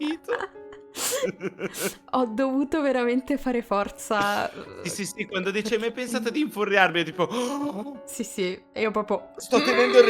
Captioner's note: gasp